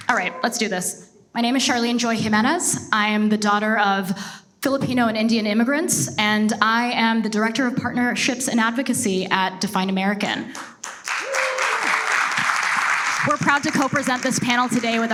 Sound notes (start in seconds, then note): 10.5 audience applauds